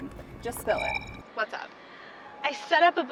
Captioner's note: recorder chirps